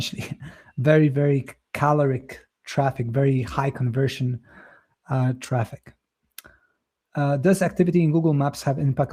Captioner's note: chuckles